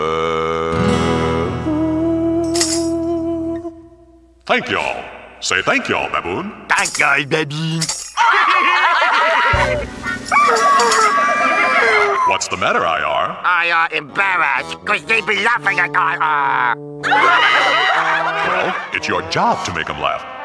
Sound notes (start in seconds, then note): 8.1 laughing; 9.6 screetch; 17.0 laughing